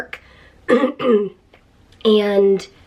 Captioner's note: clears throat